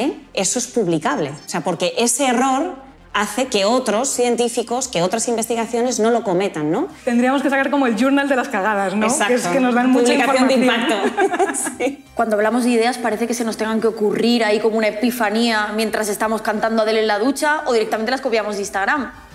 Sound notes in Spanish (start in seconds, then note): 10.5 Risas